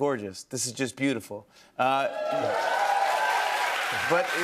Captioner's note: cheers and applause